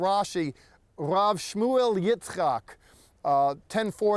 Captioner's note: speaking in Hebrew